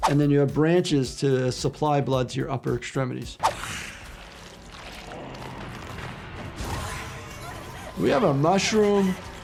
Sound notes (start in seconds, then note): 3.5 monster hissing